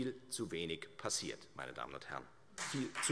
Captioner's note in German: Beifall Freie Demokraten